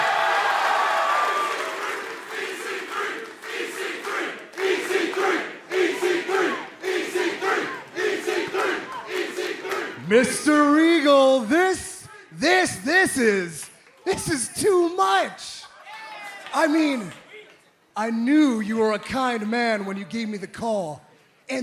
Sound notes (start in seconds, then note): 4.2 crowd cheering